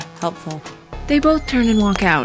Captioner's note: door opening